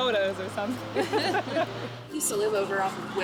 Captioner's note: laughter